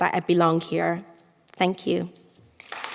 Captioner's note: applause